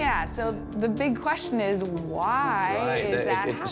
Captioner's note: stammers